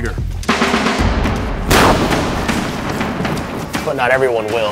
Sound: loud explosion

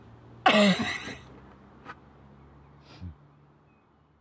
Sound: laughs

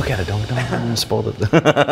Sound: laughing

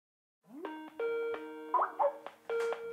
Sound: ringing

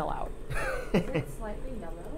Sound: laughing

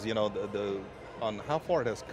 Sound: none

